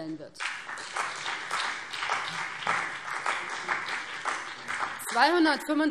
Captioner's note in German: Beifall BÜNDNIS 90/DIE GRÜNEN und CDU